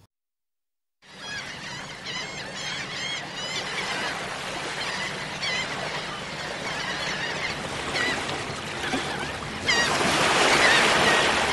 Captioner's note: surf; seagulls cawing